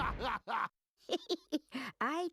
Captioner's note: giggling